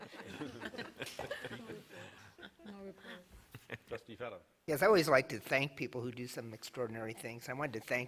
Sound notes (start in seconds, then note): 0.0 laughter